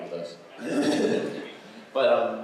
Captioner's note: laughs